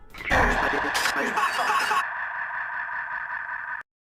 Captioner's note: static; upbeat music